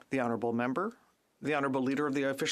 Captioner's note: speaking French